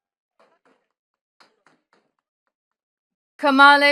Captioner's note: attendees clapping